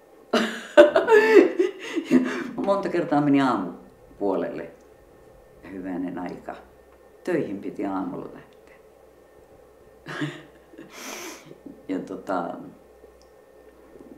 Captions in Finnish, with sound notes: [Nauraa] Ja monta kertaa meni aamun puolelle. Hyvänen aika, töihin piti aamulla lähteä! [Niiskauttaa] Ja tuota...